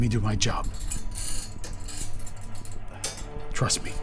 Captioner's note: chain rattling